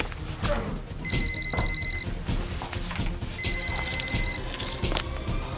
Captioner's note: sound of cellphone ringing over and over